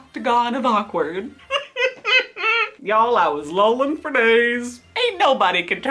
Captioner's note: laughs